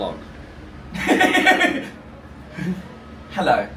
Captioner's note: laughing